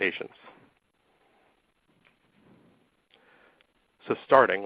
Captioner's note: silence